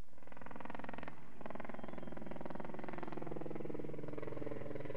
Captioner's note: helicopter blades whirring